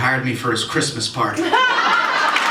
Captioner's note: laughter